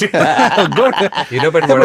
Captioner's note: laughing